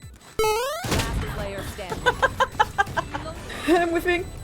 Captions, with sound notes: *Laughing from how stupidly I died* I'm whiffing